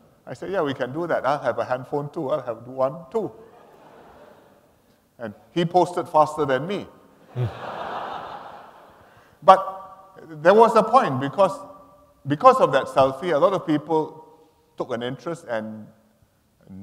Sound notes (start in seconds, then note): 3.4 laughter; 7.3 laughter